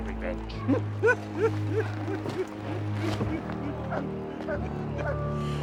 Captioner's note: laughter